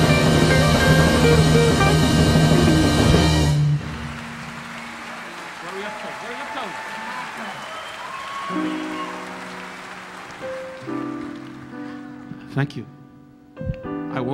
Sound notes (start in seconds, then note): 3.4 audience applauding; 8.4 relaxing piano music